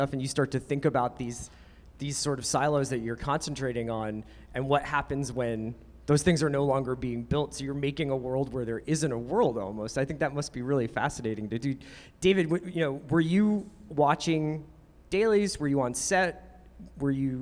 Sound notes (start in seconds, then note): none